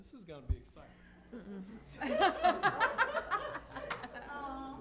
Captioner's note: laughter